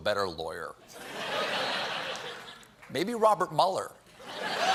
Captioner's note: laughter; laughter